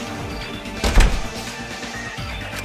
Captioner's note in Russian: Щёлк!